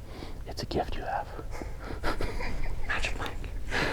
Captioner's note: laughing